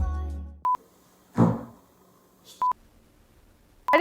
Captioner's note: couch farts